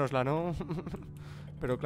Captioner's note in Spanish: risita malevolita